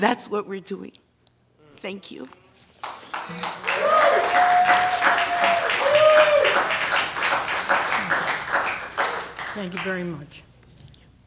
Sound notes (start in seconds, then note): 2.8 applause